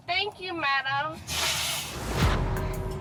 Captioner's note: blows nose